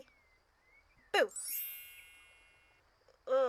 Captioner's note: magical sound effect